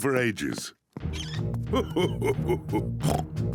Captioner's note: laughs; oinks